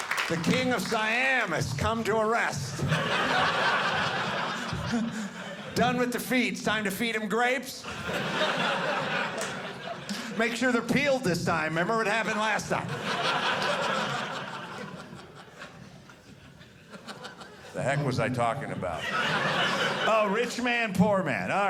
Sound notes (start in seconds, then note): 0.0 audience clapping; 2.6 audience laughing; 7.8 audience laughing; 13.4 audience laughing